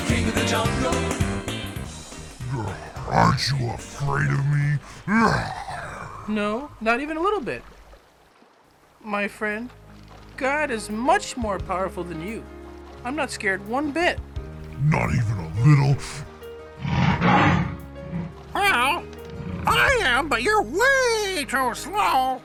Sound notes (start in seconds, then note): 16.7 rugido de león